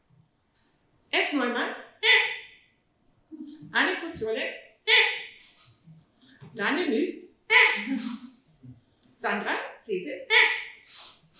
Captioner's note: toots